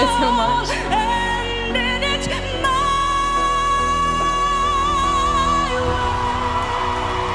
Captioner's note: audience cheers